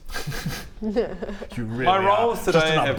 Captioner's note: unsympathetic laugh